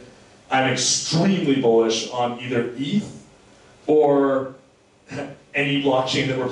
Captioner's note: slurs words